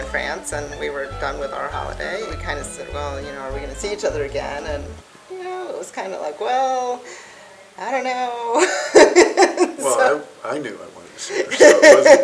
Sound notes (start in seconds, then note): 8.6 laughs; 11.4 laughing